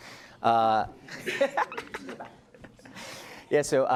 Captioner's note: laughs loudly